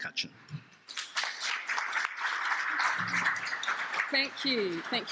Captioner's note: audience applauds